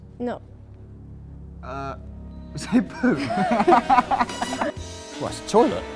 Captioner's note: both laughing